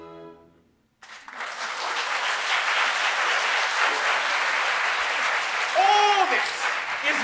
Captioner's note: applause